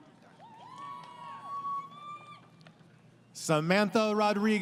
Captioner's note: crowd Cheering